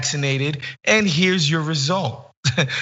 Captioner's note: laugh